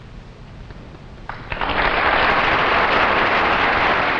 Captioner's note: audience applauding